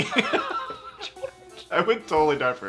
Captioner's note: laughing